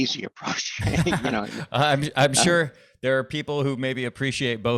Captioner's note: chuckling